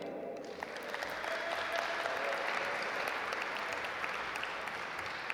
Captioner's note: audience applaud